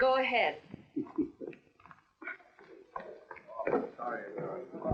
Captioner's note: laughing; chattering